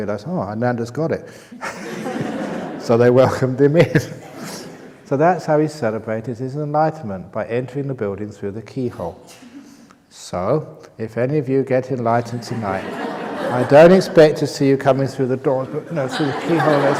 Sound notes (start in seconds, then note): 1.6 laughter; 15.6 laughter